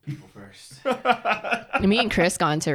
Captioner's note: laughs